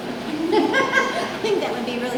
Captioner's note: laughter